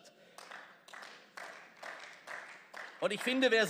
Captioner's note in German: Beifall